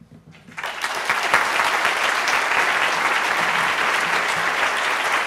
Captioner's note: audience applauding